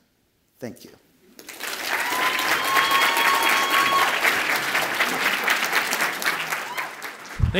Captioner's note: audience applauds and cheers